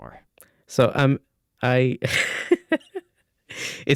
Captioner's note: laughs